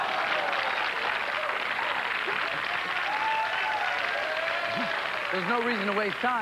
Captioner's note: cheers and applause